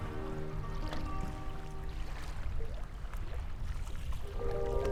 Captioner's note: water splashing